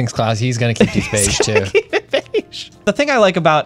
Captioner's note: laughs; pat